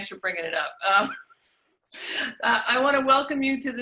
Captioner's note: laughs